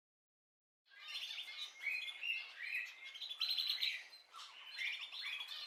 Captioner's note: birds singing